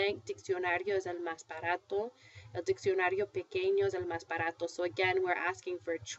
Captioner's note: foreign language